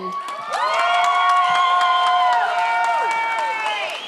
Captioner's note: audience cheers